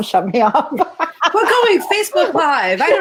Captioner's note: laughter